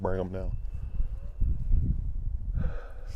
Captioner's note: elk bugling